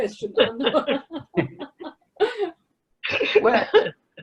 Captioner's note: laughs loudly